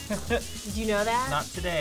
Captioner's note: laughs